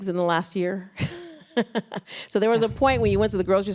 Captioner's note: laughs